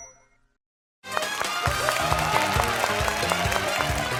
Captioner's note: applause